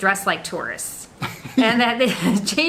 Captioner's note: laughing